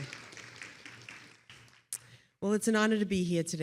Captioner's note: attendees applauding